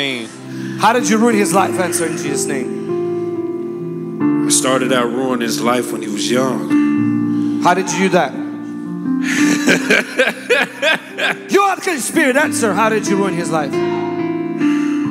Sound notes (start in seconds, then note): 9.3 laughing